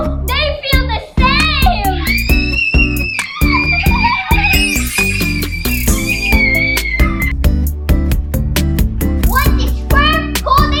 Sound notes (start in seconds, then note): 3.5 screaming